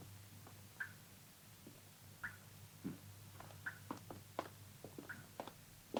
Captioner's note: liquid continues dripping